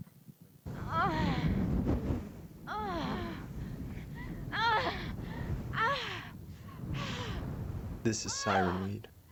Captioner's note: woman moaning